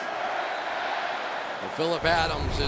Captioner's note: crowd shouting; pa announcement